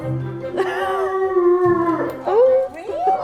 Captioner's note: dog whining